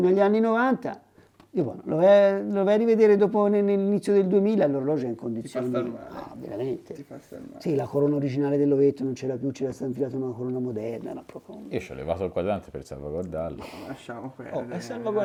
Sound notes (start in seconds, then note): 10.8 laughs